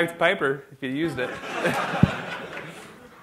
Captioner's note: laughter